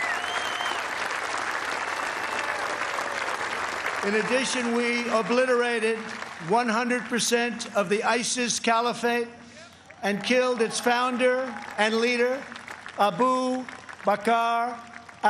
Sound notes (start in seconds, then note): 1.7 applause